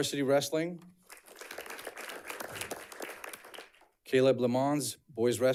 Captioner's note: audience clapping